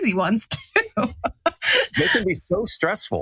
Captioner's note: laugh